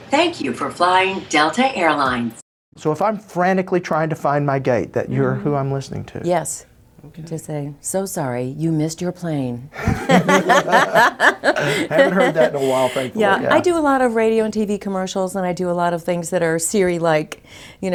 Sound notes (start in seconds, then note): 9.8 both laughing